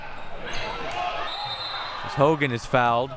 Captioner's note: whistle blowing